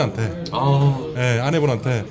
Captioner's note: tearing up